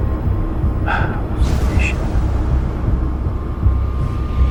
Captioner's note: sighs; tense music continues